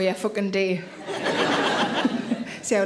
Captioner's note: audience laughing